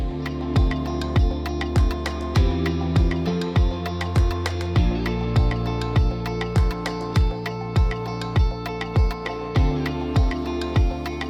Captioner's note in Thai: ปรบมือ